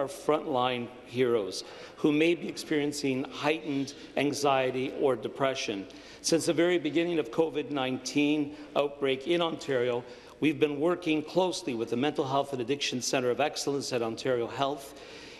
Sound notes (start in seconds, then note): none